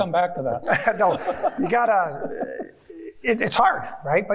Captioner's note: chuckling